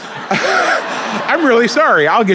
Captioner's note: laughing